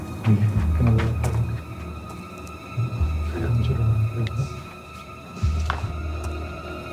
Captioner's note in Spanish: Hablan en voz baja